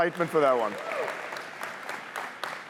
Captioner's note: cheers, applause